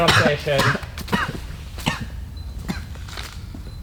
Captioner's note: cough